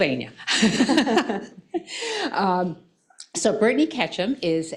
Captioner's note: laughing